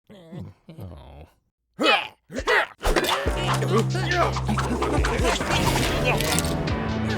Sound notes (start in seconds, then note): 0.1 dinos grunting; 3.3 cool synth plays